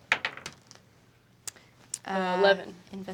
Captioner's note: dice bouncing